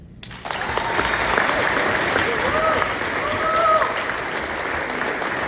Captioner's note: audience clapping and cheering